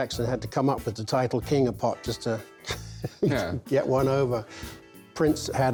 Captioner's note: laughs